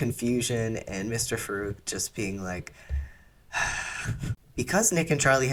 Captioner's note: deep sigh